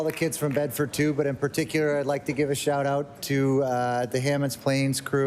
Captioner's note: applause